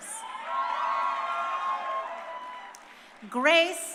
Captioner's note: crowd cheering